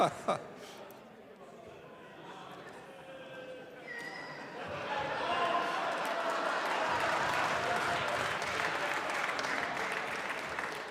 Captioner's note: applause